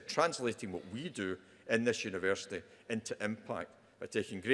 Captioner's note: none